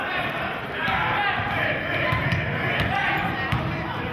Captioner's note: yelling